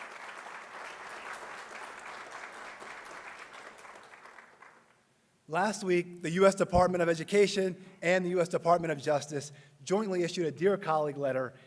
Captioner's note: applause